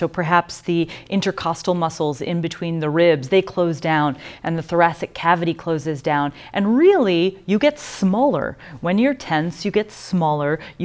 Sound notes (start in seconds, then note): none